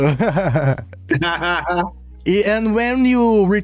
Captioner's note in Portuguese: risadas